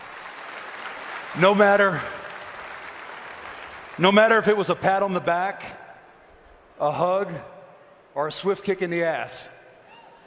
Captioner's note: applause